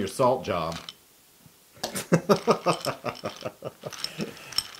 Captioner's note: laugh